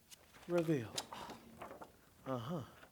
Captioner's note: students exhale; rustling papers